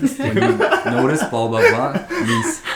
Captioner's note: laughs